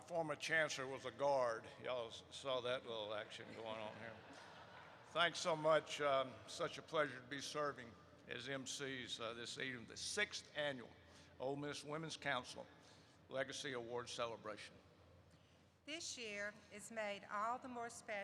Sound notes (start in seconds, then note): 3.3 laughter erupts